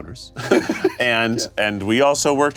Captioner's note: laughs